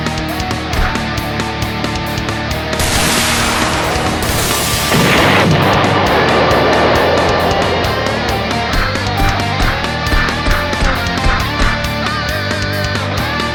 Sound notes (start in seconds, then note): 2.8 laser buzzes; 5.0 laser explodes